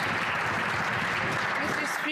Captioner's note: some Applause